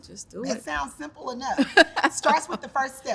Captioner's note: laughs